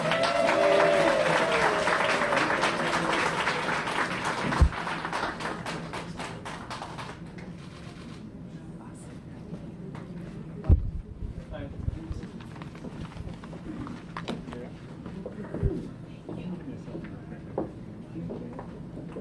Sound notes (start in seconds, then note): 7.7 cheers and applause